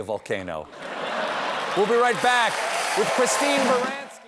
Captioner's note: laughter